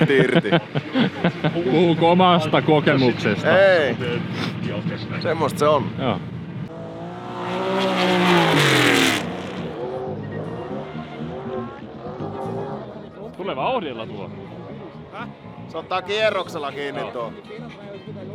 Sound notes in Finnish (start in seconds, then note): 6.6 moottorien pärinää